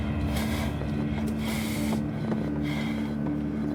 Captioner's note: dramatic music playing; breathing heavily